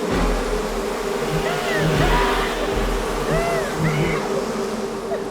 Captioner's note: sanglotant passionné